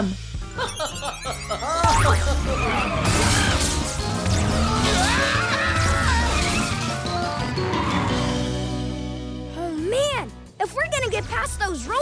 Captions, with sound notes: [laughing] [screaming] Oh man, if we're gonna get past those robots,